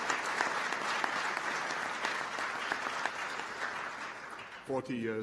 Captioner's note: applause